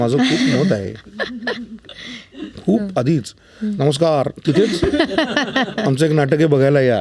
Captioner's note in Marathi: हास्य